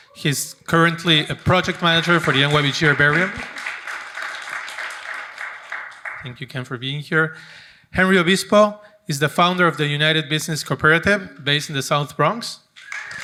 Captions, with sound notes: He's currently a project manager for the NYBG herbarium. (audience applauding) Thank you Ken for being here. Henry Obispo is the founder of the United Business Cooperative based in the South Bronx.